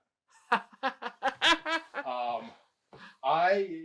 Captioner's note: laughing